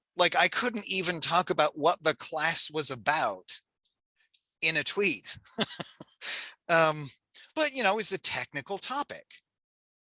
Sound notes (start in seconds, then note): 5.2 laughs